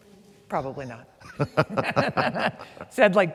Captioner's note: laugh